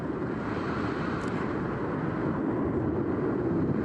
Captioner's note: wind rushing